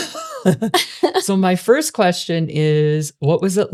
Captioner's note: both laughing